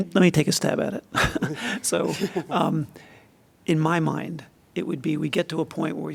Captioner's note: laughter